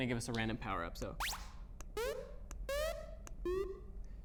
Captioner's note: computer sound effects